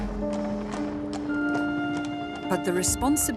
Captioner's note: hooves clopping